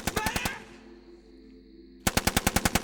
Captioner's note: gun fire